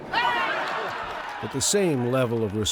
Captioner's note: crowd cheering